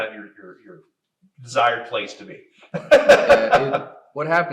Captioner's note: laughs